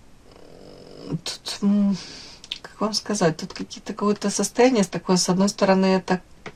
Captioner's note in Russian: фыркает